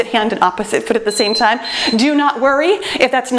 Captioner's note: timer beeps